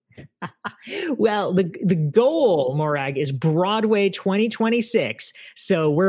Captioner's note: laughs